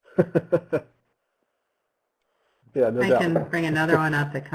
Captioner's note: laughs